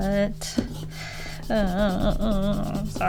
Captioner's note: inaudible whining